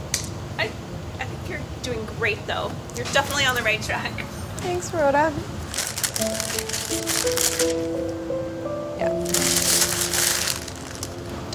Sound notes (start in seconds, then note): 5.6 paper crumpling; 5.7 sad music